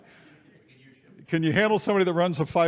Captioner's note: faintly speaking